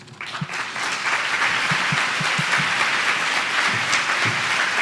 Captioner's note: applause